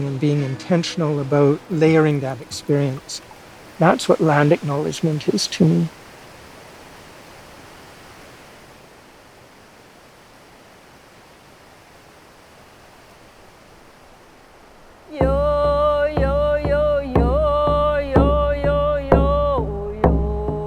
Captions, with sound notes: and being intentional about layering that experience, and that's what land acknowledgement is to me. (waterfall rushes) (woman sings) (drum beats)